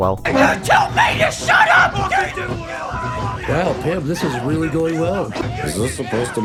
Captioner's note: Pim’s Mother and Father yell at each other offscreen